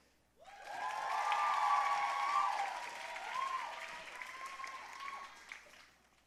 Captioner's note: audience cheering and applauding